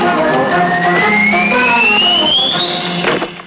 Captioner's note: whistles